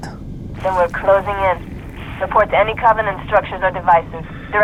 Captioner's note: radio